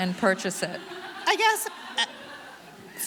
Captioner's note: audience laughing